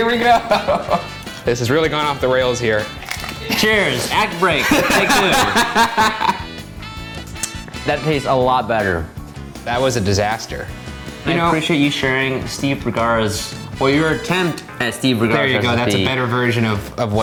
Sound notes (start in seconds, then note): 5.4 laughs loudly